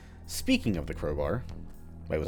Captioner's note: none